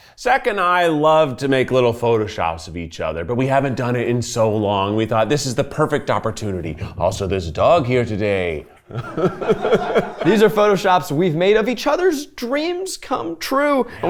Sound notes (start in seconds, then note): 8.9 everyone laughs